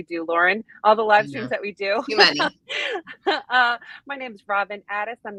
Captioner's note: laughs